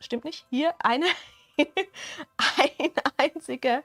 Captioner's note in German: Gelächter